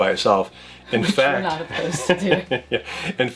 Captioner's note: laughs